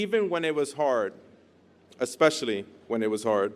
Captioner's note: none